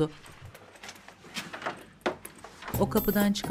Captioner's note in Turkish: Kapı açılma sesi; Müzik - Hareketli